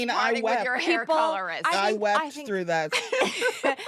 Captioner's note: all laugh